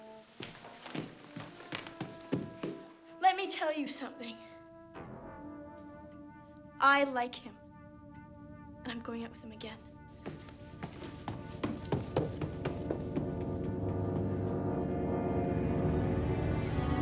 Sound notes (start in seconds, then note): none